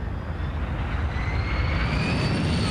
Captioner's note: aircraft noise